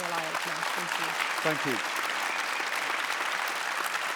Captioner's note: applause